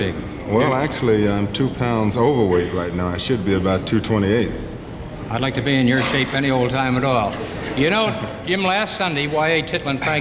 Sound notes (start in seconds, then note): 7.2 audience laughing